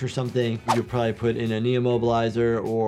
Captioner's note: audio whooshes